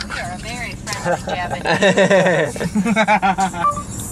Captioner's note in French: rires suite à la discussion par traducteur